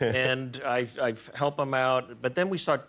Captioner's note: laughter